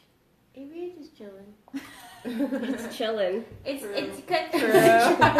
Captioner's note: laughter